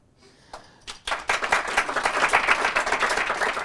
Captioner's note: applause